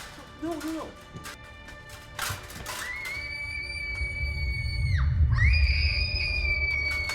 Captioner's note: armor clanking; someone screaming